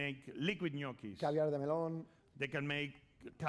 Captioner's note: speaking spanish